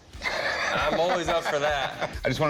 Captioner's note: laughs